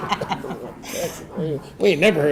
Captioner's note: audience chuckling